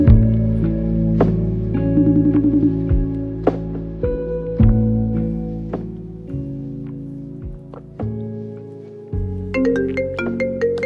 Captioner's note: phone rings